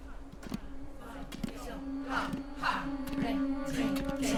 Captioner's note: all chanting